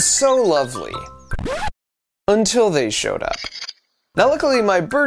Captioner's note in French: chants d'oiseaux; grincement de disque